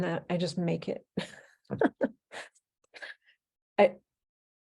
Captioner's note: laughing